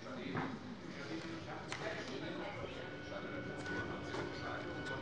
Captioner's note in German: none